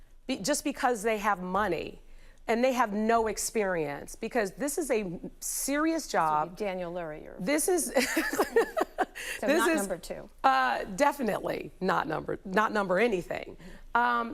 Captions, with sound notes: just because they have money and they have no experience, because this is a serious job. This would be Daniel Lurie, your... This is... [laughing] - This is-- - So not number two. Definitely not number-- not number anything.